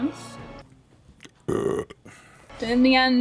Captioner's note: burp